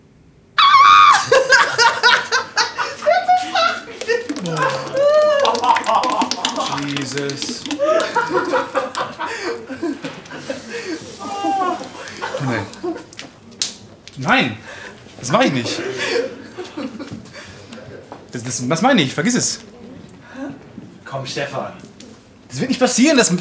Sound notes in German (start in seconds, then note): 1.0 Gelächter; 7.6 Gelächter klingt ab